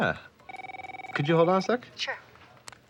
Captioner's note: phone rings